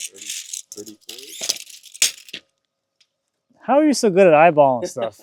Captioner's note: tap measure slapping